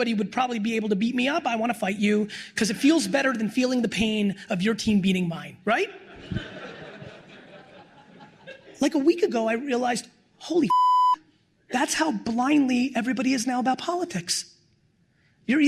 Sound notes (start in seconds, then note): 5.9 laughter; 10.6 beep